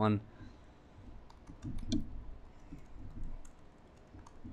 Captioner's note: typing